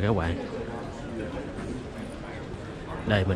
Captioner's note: people talking